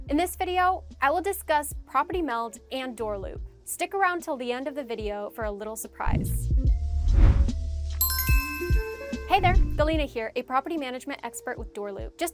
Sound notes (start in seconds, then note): 7.5 calm music; 8.0 chime sounding